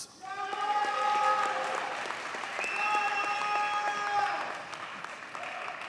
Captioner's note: audience cheers and applauds